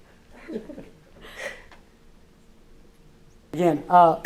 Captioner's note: laughs